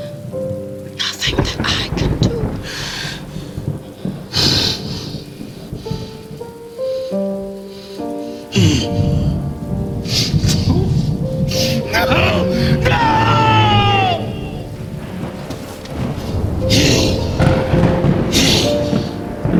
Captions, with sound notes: And there's nothing, nothing that I can do. (solemn piano music) (Lucifer growls) - No! No! No! (thunder rumbles) No!